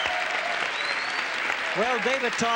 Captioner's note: audience cheering